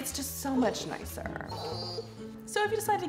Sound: cellphone vibrating

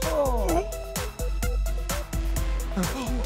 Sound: gasps

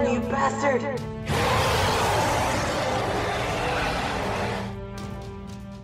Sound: fierce motherly roar

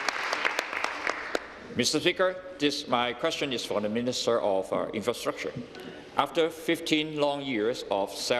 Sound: applause

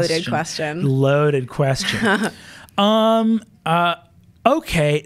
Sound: laughs

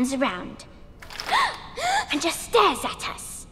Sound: girl gasps; boy gasps

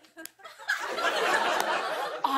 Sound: laughter

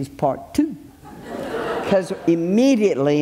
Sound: audience laughs

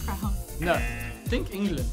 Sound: buzzer rings; buzzer

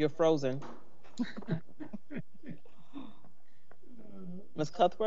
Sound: members chuckling

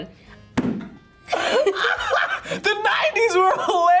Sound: both laugh

